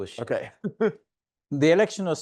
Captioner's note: chuckling